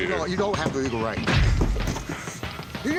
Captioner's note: boom